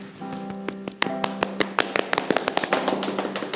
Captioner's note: clapping